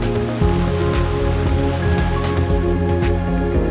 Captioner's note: water crashing